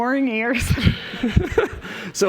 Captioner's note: laughter